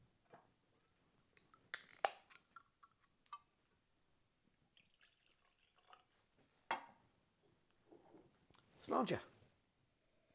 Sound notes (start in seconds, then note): 1.7 can clicking; 4.7 whiskey splashing